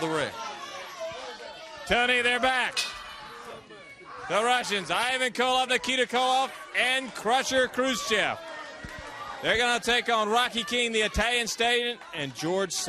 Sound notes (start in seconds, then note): 1.1 crowd chatter; 3.9 bell ringing